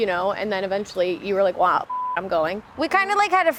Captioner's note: beep